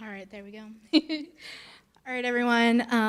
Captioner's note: chuckling